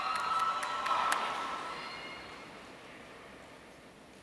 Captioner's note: audience cheering